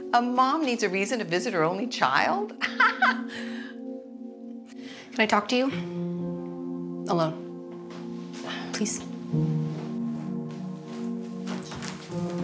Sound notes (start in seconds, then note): 2.6 Colleen laughs; 10.0 dramatic music